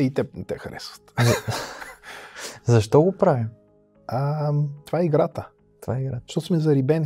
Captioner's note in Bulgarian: смях